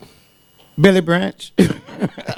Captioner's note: laughs